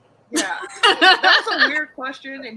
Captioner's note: all laugh